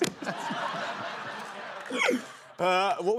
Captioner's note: laughter